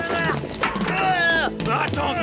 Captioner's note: screaming